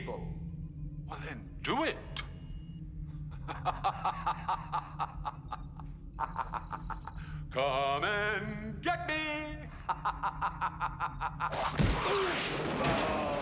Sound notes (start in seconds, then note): 3.2 laughing